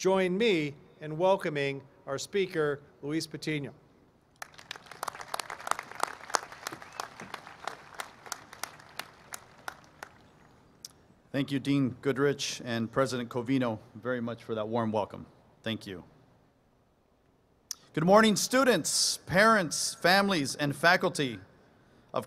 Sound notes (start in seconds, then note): 10.6 applause